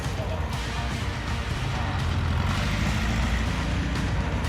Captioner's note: upbeat music; engine revving